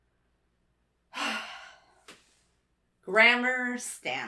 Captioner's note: sighs